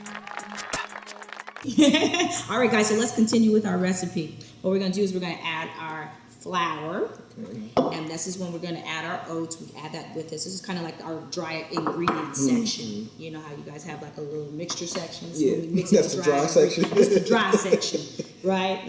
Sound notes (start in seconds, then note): 0.0 audience claps and cheers; 1.7 laughs